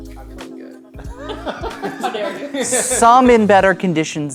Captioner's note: players laughing